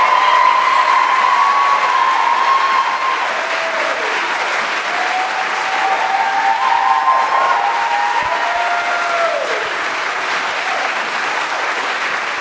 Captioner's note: applause